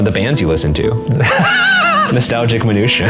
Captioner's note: laughing